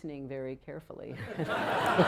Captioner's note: laughter